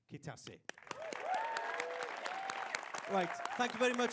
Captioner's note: applause